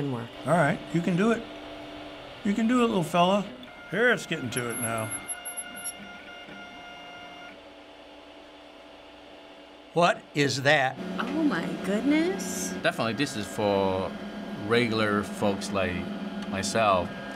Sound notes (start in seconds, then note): 5.2 machine whirs; 7.4 whirring stops